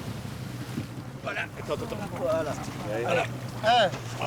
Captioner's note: crew speaking French